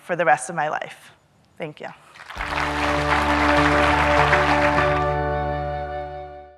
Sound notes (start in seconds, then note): 2.1 audience clapping; 2.4 piano music